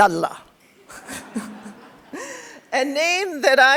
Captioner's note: laughter; crowd laughs